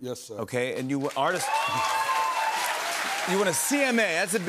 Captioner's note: cheers and applause